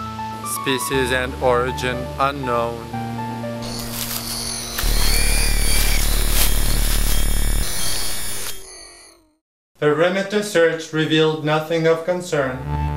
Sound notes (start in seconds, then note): 3.6 alien squealing; 3.6 robotic alarm sounds